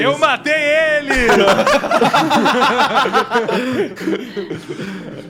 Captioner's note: laughs